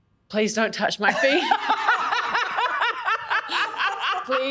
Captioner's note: laughs hysterically